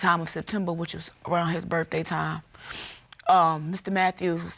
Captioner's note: sniffles